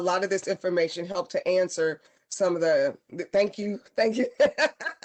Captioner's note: laughter